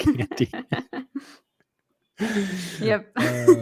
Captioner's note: chuckling